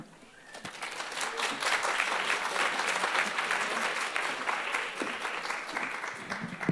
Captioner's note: applause